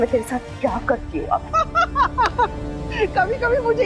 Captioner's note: laughing